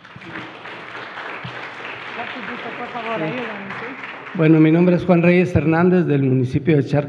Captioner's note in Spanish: Aplausos